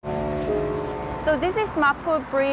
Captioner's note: gentle music; boat horn blaring